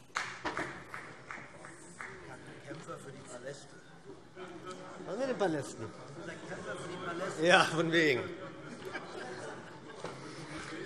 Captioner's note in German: Beifall